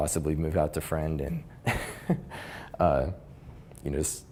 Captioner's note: laughs